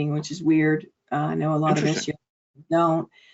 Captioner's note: audio distortion